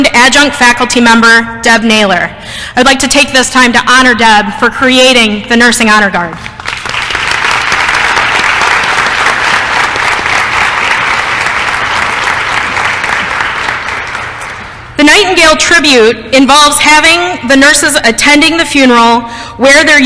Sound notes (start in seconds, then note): 6.5 applause